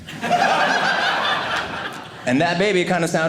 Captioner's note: audience laughing